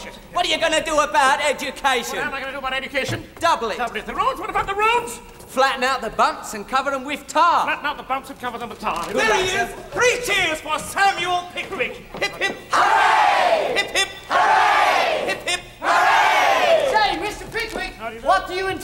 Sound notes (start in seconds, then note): 12.2 crowd